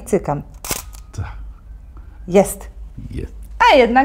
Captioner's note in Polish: Dźwięk migawki